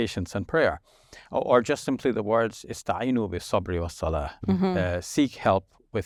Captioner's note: speaks a foreign language